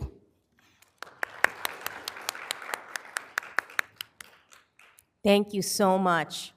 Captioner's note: applause